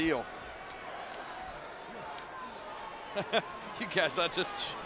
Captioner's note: crowd murmuring